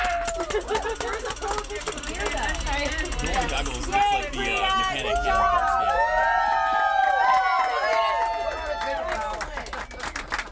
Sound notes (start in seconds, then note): 0.0 applause; 7.6 applause